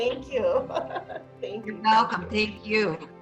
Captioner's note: laughing